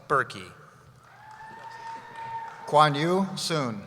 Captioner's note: cheering